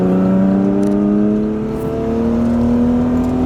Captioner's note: engine revving